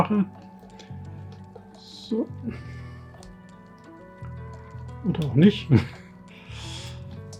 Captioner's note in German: lachen